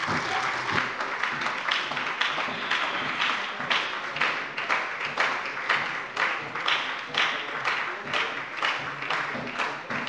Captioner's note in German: Beifall bei der SPD